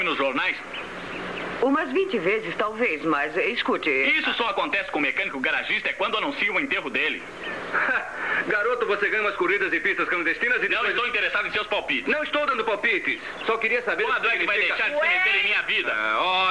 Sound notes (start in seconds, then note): 7.4 chuckles